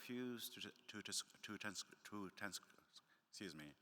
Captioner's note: stammering